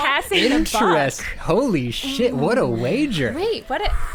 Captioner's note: pat